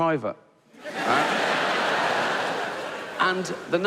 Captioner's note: audience laughing